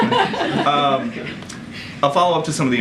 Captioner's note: laughter